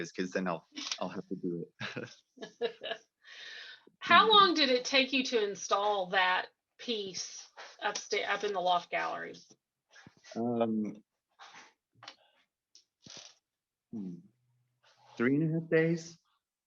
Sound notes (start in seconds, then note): 1.8 laughter